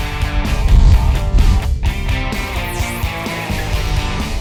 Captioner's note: whoosh